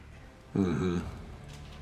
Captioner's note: says sarcastically